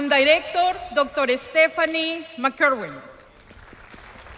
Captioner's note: applause